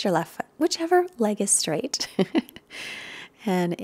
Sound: laughs

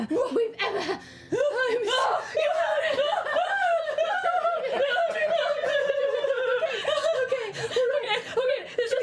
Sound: sobbing in relief

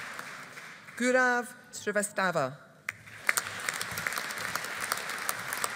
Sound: audience applauding

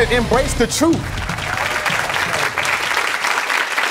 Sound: audience applauds

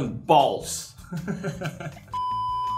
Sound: laughs

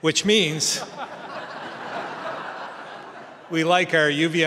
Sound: laughter

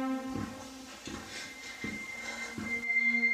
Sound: piano music playing; footsteps; breathing heavily; piano music playing

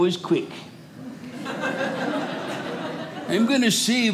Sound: audience laughing

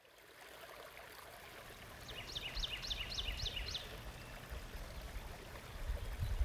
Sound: water rippling; birds chirping

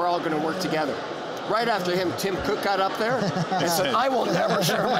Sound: laughter

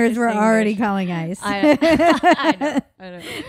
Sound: laughing

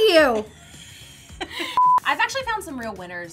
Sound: laughing

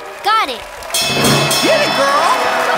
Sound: bell rings

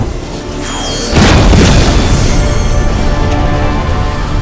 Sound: explosions

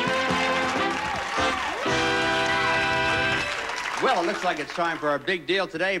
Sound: audience applauding

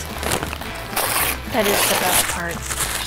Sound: stabilizer rips

